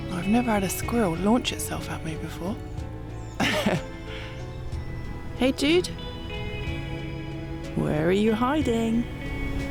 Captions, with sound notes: I've never had a squirrel launch itself at me before *chuckles* hey dude where are you hiding?